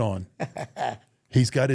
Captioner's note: Rey laughs